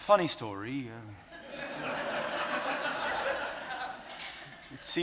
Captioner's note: audience laughing